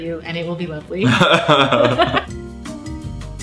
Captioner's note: laughing